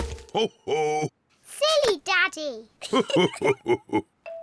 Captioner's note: both laugh